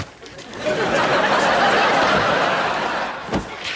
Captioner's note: audience laughing